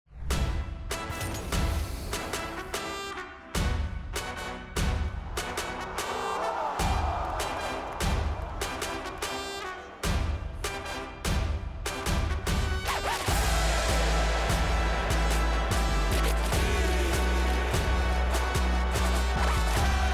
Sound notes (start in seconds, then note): 0.0 crowd shouting; 0.0 victorious music; 10.0 crowd continues shouting; 10.0 victorious music continues; 19.8 crowd continues shouting; 19.8 victorious music continues